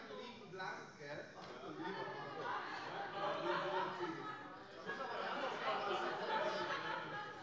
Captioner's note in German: Heiterkeit